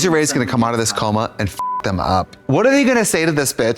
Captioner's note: beep